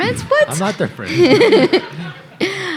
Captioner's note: laughing; audience laughing